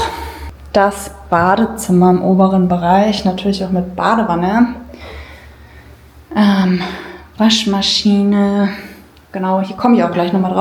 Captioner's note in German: seufzt